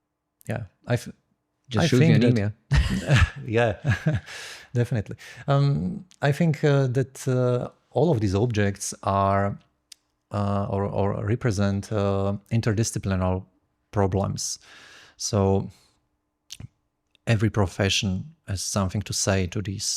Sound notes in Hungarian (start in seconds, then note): 3.7 nevetés